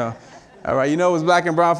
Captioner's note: audience laughing